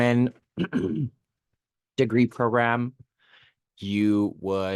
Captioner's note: clears throat